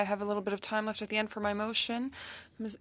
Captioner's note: speaking French